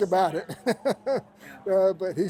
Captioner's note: laughter